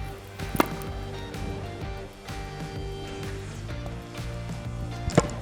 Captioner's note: upbeat music; tennis racket hitting ball; tennis racket hitting ball